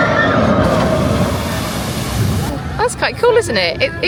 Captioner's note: tourists shouting excitedly; water splashing